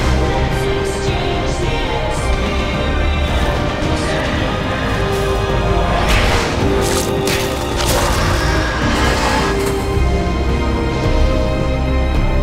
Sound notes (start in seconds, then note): 6.8 Vecna screeching; 6.9 dramatic music